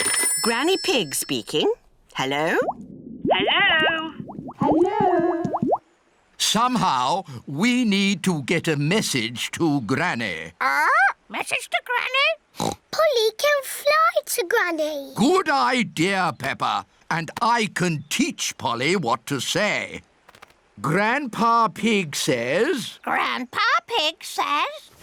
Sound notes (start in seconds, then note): 3.2 voice echoes; 12.6 oinks